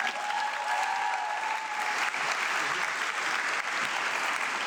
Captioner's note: audience clapping